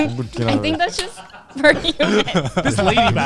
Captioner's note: all laughing; laughing